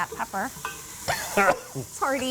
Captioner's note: coughs